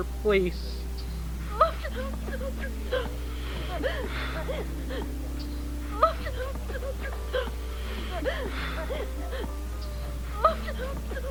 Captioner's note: parents Crying Looping